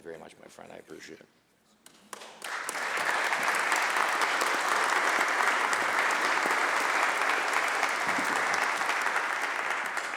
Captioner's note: applause